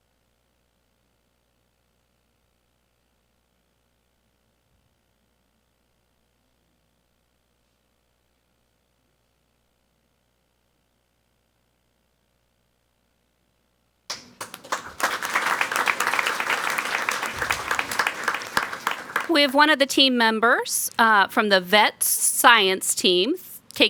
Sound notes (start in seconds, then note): 14.1 people clapping